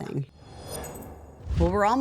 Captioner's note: air whooshing